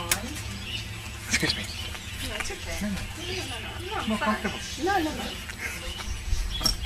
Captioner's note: conversing